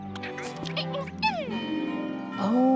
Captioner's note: caterpillar noises